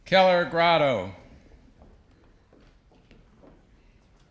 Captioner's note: none